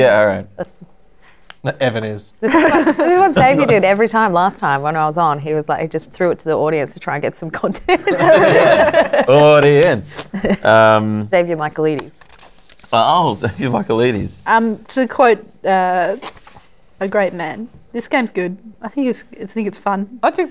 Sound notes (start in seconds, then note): 2.5 laughs; 7.9 laughter